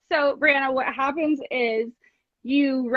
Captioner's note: none